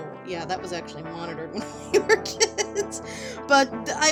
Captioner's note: laughing